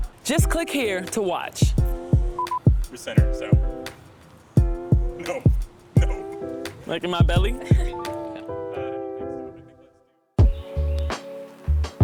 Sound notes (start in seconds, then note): 1.8 beeping; 5.1 laughs; 8.0 offscreen laughter